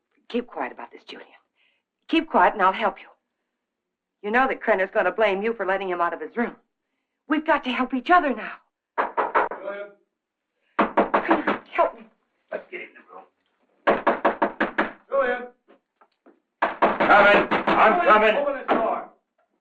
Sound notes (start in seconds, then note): 10.8 Krenner knocking; 13.8 Krenner knocking